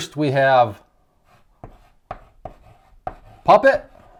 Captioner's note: chalk writing